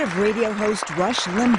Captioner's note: cheering and applause